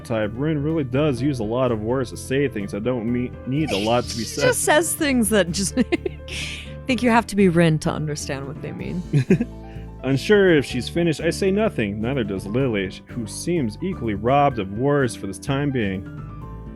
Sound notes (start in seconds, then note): 6.4 laughs; 9.0 giggles